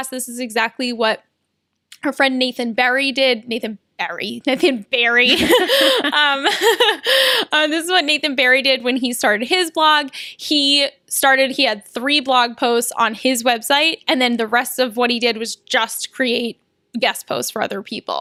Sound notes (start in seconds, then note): 5.2 laughter